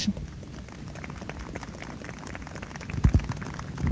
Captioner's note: applause